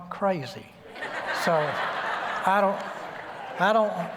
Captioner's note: laughter